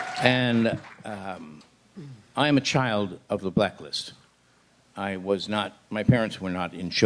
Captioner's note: applause